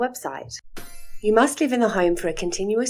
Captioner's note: chime sound